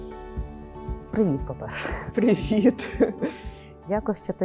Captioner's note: laughs